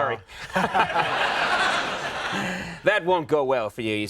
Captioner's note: Stephen and audience laughing